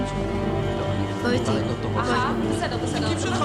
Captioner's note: speaks hebrew